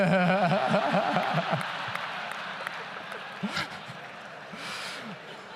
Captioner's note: laughs; audience laughs and applauds